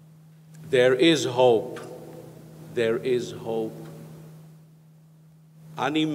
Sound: speaks in foreign language

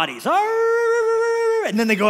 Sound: mimics wolves barking

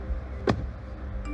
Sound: car door close

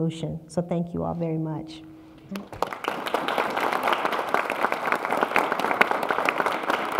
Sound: applause

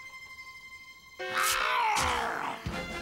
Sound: werewolf growling

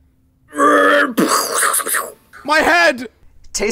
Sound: mouth explosion sounds

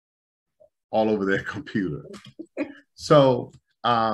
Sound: laughter

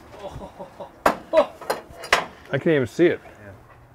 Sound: laughter

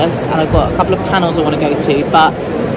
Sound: people chattering

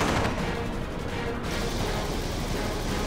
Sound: gunfire

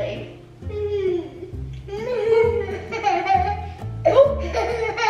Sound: laughing

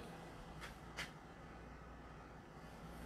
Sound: the sound of a dryer blowing

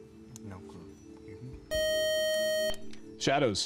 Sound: time-out buzzer

